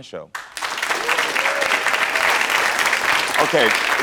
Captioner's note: audience applauds